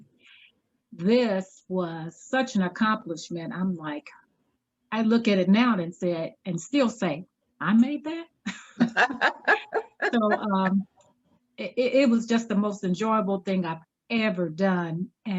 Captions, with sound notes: this was such an accomplishment. I'm like, I look at it now and said, and still say, I made that? (participants laughing) It was just the most enjoyable thing I've ever done.